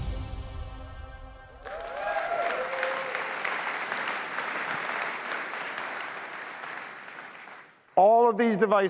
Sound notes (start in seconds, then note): 1.6 applause